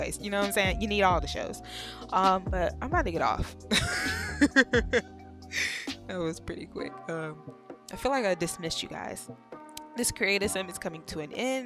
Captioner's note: laughs